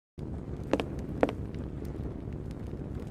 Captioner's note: thunder